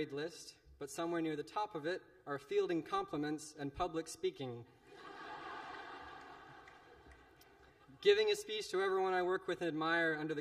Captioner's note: laughter